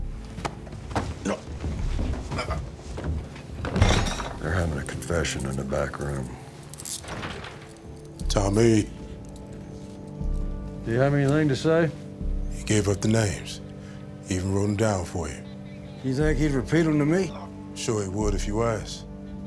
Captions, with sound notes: [GRUNTING] They're having a confession in the back room. [DOOR OPENS] Tommy. Did he have anything to say? He gave up the names. He even wrote 'em down for you. You think he'd repeat them to me? Sure he would if you asked.